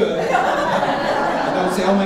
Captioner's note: audience laughing